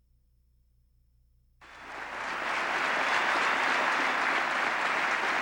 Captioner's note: applause